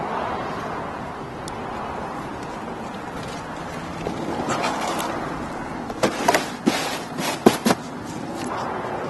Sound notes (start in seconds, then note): 2.2 thud of boxes